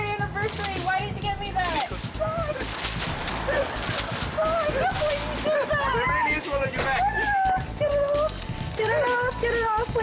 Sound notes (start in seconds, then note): 2.1 flowers thrashing; 3.2 audience laughing